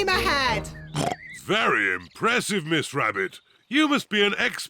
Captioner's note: oinks